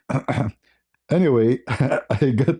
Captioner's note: berdehem